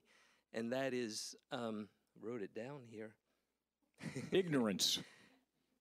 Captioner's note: chuckling